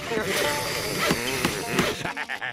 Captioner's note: pounding, sawing